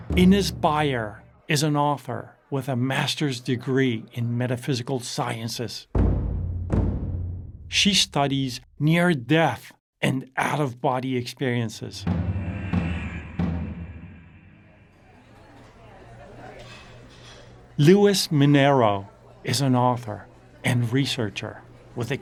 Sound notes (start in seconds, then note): 5.9 taiko drums; 12.0 taiko drums; 14.4 people chattering; 14.4 restaurant noise